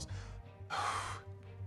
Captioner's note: sighs